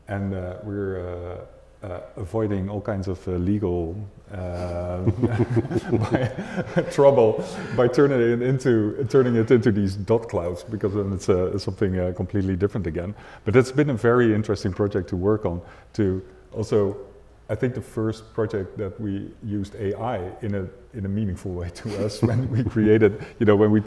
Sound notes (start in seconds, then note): 4.5 laughing